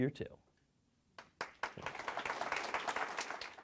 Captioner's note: audience applauding